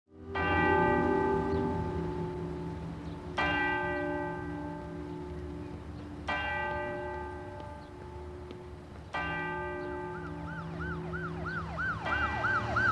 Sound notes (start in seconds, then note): 0.1 church bells ringing; 10.2 siren wailing